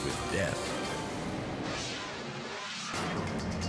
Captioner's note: air whooshes; bright music